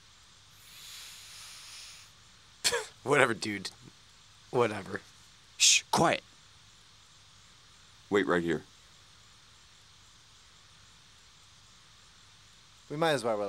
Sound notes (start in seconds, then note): 0.5 inhales deeply; 3.4 laughs